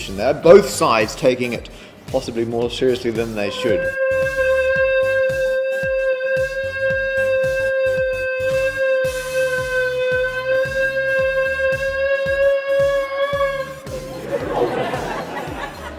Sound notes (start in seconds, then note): 3.4 high-pitched wobbly sound; 14.2 laughter